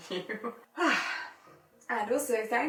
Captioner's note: sighs